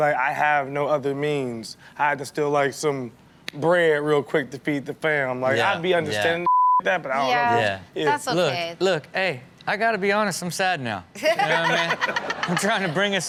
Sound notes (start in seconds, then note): 11.2 everyone laughs